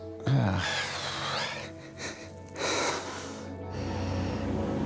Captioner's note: sobbing